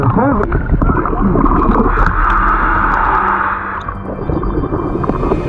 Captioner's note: oxygen bubbling in water; oxygen tank hissing; ominous instrumental music